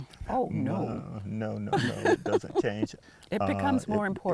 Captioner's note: laughter